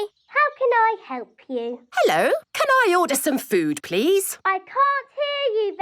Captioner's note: none